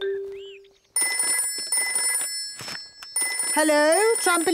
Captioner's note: phone ringing